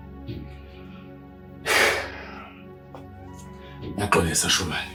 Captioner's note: sigh